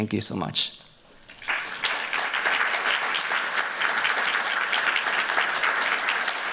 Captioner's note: applause